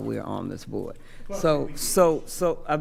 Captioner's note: speaking quietly